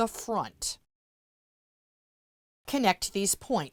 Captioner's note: no Sound Present